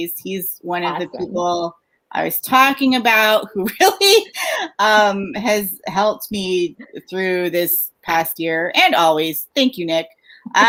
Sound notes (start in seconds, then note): 4.1 laughs